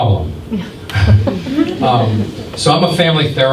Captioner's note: scattered chuckles